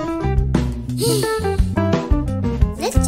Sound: sighs

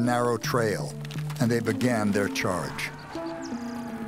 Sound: men shouting

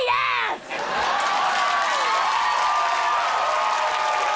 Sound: audience cheering

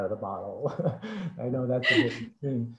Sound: laughs

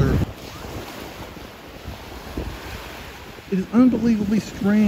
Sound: waves rushing

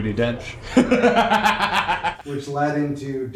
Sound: laughing

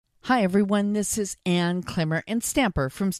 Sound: voiceover

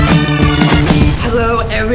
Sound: upbeat music; explosion booming

